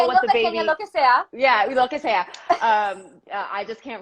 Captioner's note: speaking spanish